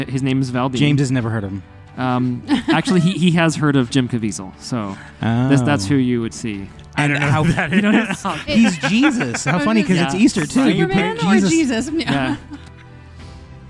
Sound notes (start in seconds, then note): 2.4 laugh; 7.0 laughs